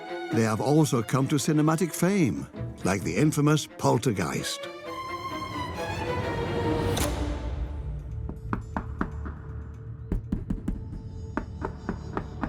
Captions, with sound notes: They have also come to cinematic fame, like the infamous Poltergeist. (dramatic music) (knocking)